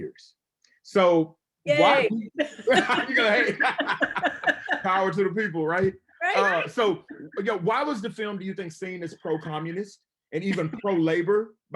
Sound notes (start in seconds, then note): 2.6 everyone laughs